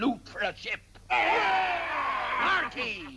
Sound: cheering

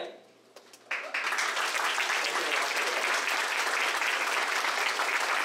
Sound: audience applauds

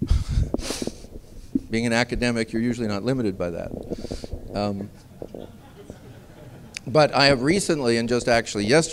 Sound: laughter

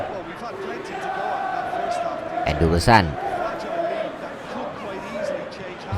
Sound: applause

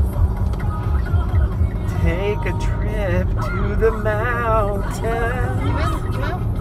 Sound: singsong

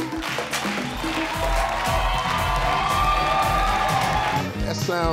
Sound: people clapping; people applauding

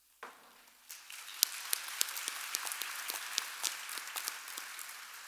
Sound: audience applauding

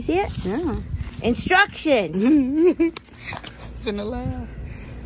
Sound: giggles

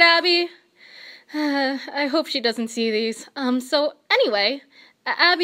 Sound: sigh

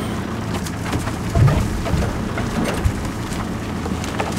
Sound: logs thud

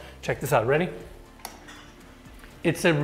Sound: switch clicks

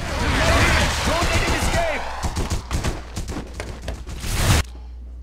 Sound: explosion and gunshots

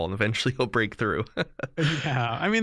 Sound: chuckle

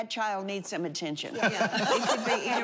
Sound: laughter

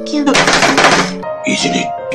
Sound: table slams

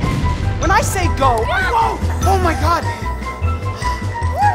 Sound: screaming

